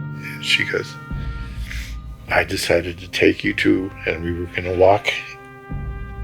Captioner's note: crying